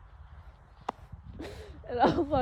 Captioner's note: knocks microphone; sobs weakly through words